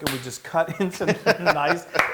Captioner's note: laugh